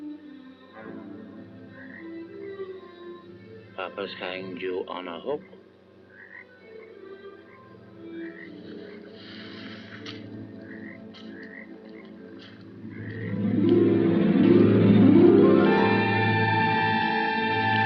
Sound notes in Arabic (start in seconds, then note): 6.4 نعيق الضفادع; 9.2 خطوات; 14.0 موسيقى مخيفة